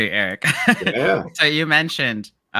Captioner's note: giggles